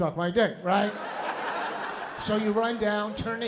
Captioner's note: laughter